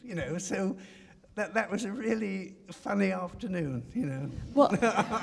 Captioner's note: laughs